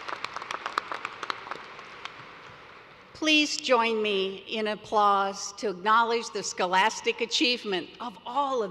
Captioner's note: applause